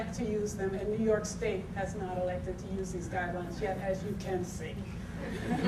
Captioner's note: audience tittering